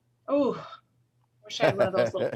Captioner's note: laughing